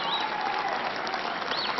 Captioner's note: applause